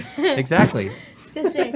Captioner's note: laughs